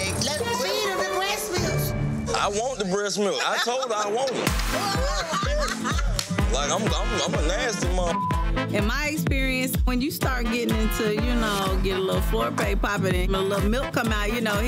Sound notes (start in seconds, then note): 4.3 hands clapping; 4.7 laughing; 8.1 beep